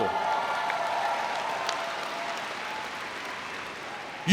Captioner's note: cheering